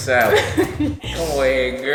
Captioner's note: laughs